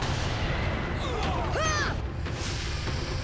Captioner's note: shrieking